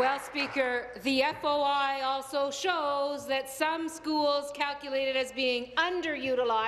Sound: applause

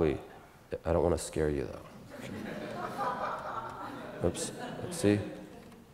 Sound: audience Laughter

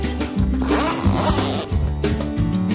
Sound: unzipping; upbeat music

